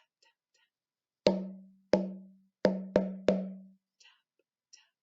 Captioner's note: tap - tap - tap tap tap; tap - tap - tap tap tap